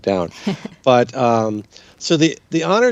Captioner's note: chuckles